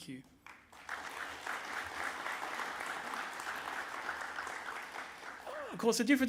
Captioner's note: applause